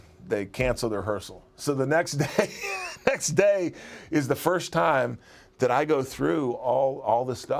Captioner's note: laugh